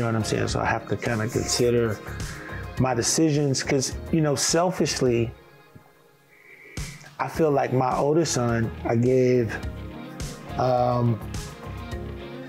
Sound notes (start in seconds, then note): none